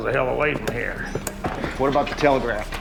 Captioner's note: grunts